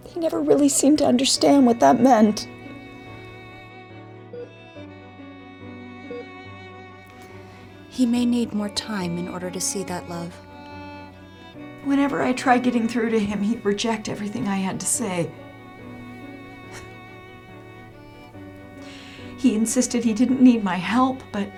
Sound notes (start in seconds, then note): 4.3 heart monitor beeping